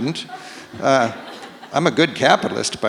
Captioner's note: audience laughs